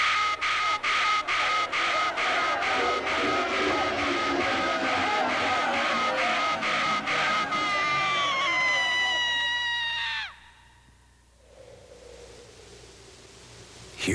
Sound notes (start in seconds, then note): 0.2 alarm sounding; 2.6 angry shouting and chanting; 7.2 person screaming; 11.3 wind blowing